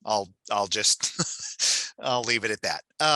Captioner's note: chuckles